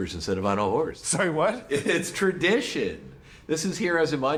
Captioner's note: chuckles